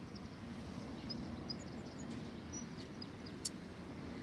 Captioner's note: birds chirping; birds chirping